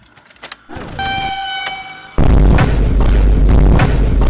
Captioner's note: insane jumble of explosion sounds